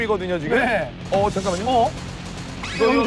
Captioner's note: shoot-out continues without a break